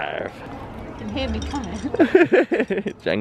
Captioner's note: laughs